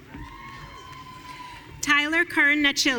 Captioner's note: audience cheering